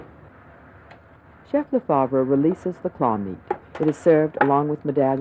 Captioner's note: voiceover